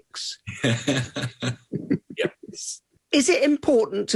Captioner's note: both laughing